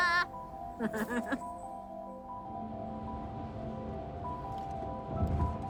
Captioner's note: laughter